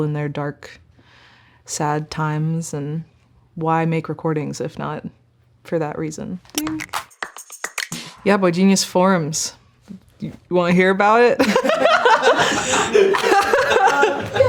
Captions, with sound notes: in their dark, sad times. And why make recordings, if not for that reason? Ding. [upbeat music] Yeah, boygenius forms. You wanna hear about it? [laughing] [speakers laughing]